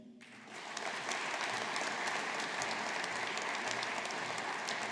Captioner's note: audience applauding